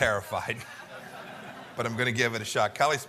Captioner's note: laughter